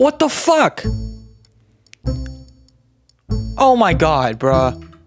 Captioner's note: muted game audio because of Copyright